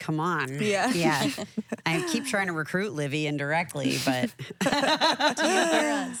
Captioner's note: laughs